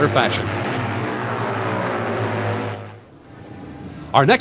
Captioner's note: engines roar